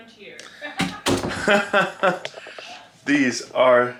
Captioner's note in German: lachen